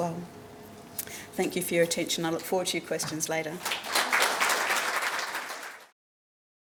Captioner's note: applause